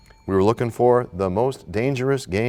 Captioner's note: bell rings, time expires